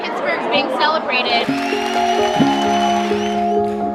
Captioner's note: loud cheering; bright upbeat music